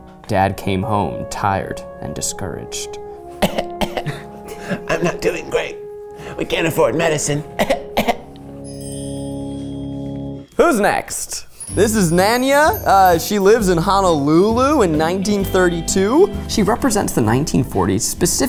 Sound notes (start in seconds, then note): 3.3 imitates coughing